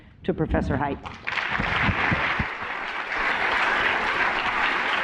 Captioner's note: applause